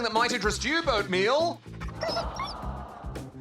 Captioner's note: pants